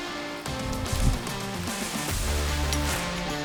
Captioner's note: none